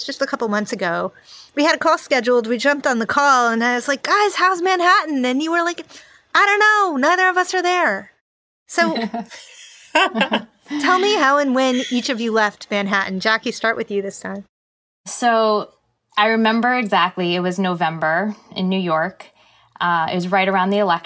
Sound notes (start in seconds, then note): 8.8 speakers laughing; 8.8 laughing